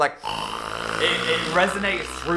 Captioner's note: snoring loudly